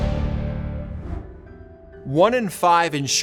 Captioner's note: air whooshing